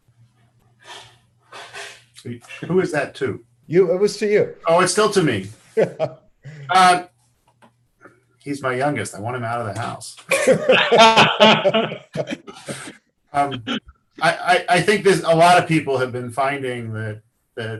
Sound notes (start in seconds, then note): 5.7 laughing